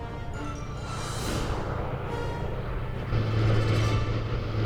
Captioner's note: whirring